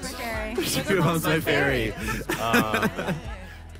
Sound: mocking

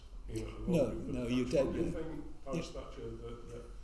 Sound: speaks faintly

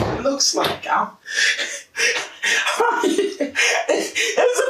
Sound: gasping and laughing

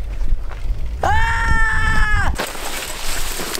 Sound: scream

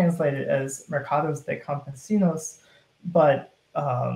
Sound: speaking in foreign language

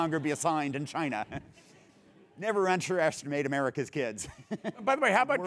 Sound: laugh

